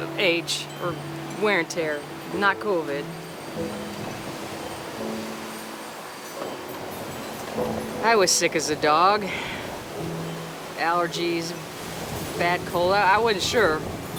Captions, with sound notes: Age, wear and tear, not Covid. (piano music) (wind whooshing) I was sick as a dog. Allergies, bad cold, I wasn't sure,